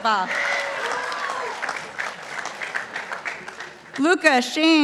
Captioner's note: participants applauding